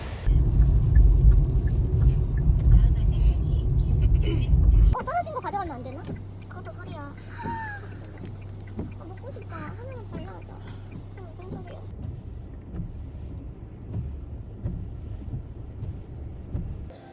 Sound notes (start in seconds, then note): 8.7 laughing; 11.5 crying